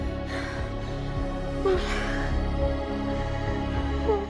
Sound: breathing heavily

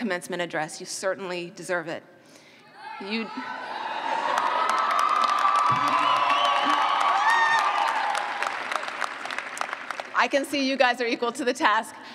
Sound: cheers

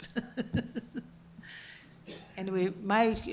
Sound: laugh

